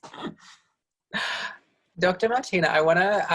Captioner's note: laughs